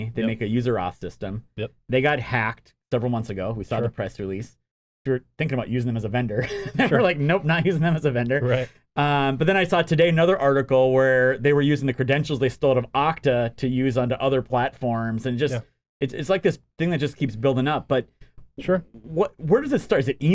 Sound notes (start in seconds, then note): 6.4 chuckles